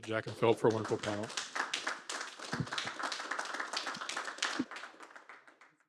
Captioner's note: applause